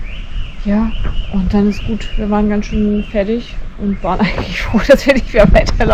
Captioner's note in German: gelächter